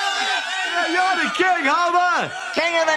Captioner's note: crowd Cheering